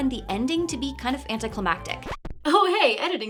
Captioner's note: record scratches